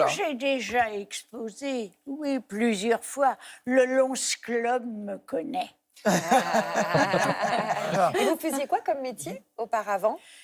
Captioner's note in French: rires